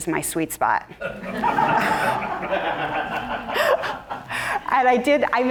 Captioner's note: audience laughing